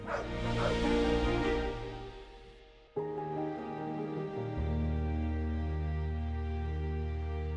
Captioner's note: dog barks, music plays, ends